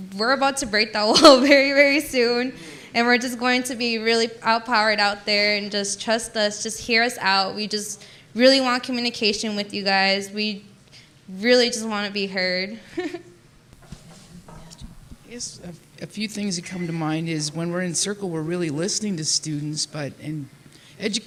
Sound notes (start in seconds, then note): 13.8 laughs